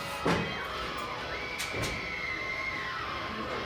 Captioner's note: screaming